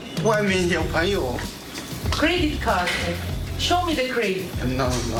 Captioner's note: speaking in native language